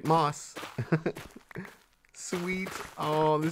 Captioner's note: laughs